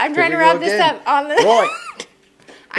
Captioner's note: murmurs